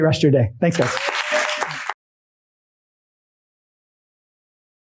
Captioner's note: applause, cheering